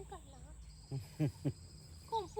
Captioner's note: chuckles